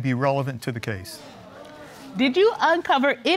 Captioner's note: audience gasping